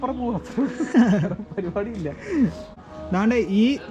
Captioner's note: chuckles